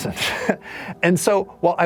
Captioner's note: laughs